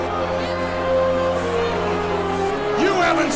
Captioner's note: angry chattering